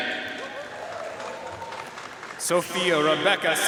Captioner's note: audience cheering and applauding